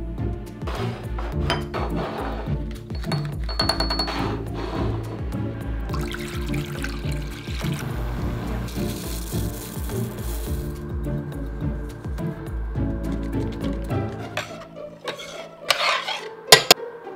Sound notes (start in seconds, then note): 2.8 spoon clanging; 5.8 water pouring; 9.2 rice pouring; 14.8 spoon scrapping